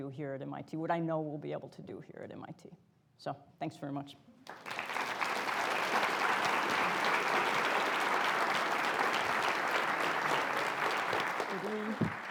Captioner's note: applause